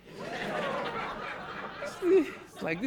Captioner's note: audience laughing